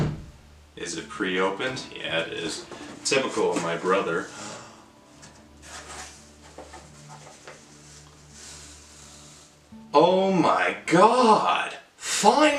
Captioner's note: gasp